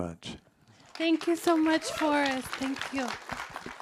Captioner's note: attendees applaud